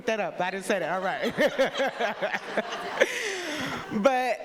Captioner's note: people laughing